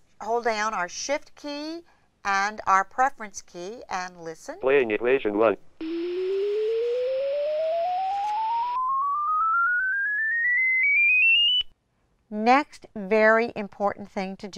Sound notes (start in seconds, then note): 7.7 ascending tones and static; 9.1 ascending tones